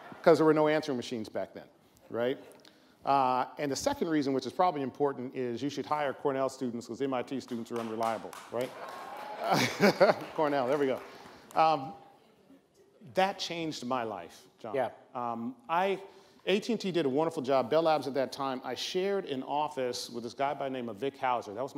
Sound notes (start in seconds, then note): 7.7 audience member applauds; 9.1 laughs